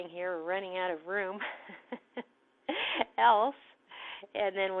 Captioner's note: laugther